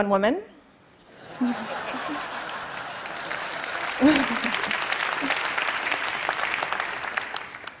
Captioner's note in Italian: Risate; Applausi